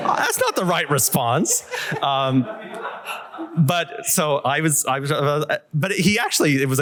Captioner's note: laughter